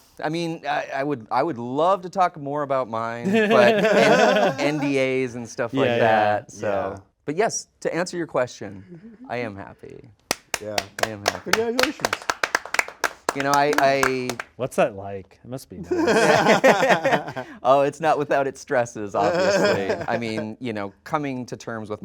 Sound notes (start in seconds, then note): 3.2 hosts laugh; 10.2 hosts applauding; 15.8 all laughing